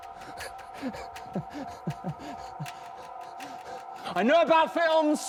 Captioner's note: Danny chuckles